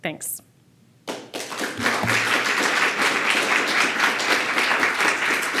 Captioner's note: audience clapping